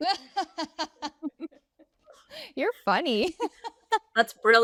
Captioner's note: all laughing